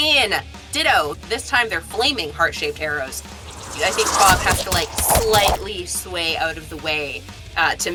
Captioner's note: thwaps